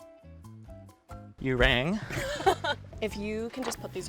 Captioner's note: laughs